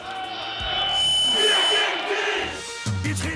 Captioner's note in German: Schreie